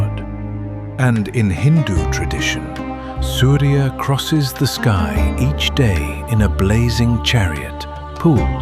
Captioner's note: thoughtful